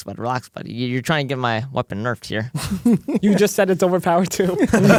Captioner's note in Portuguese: risos